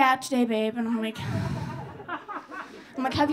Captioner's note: audience laughing